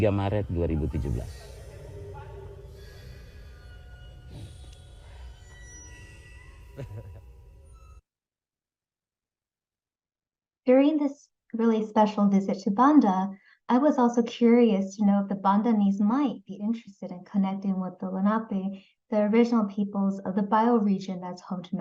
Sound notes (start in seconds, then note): 6.8 laughs